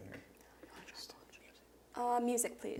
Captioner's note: whispers